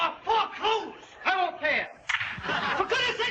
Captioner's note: hand smacking